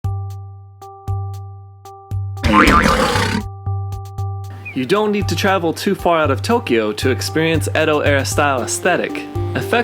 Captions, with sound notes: (playful music) (spring boings) - You don't need to travel too far out of Tokyo to experience Edo era style aesthetic.